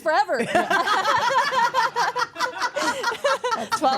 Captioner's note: all laugh